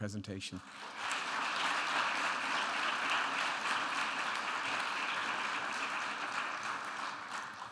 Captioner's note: audience applauding